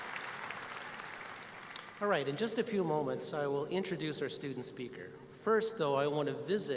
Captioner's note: applause